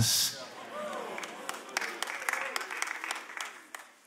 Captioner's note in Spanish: Aplausos